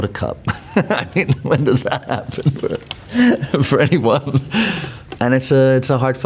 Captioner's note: laughs